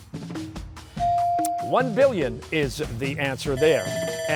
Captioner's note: bell ringing